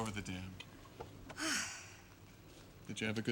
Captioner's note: sighs